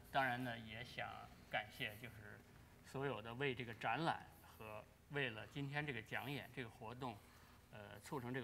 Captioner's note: speaking in Chinese